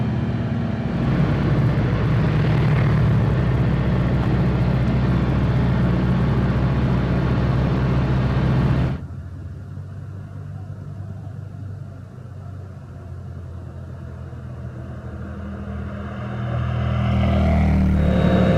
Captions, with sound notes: [ENGINE REV] FAW FD290SL Engine Tested Climbing Brutal Up & Down Steep Hills!